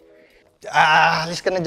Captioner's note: grunts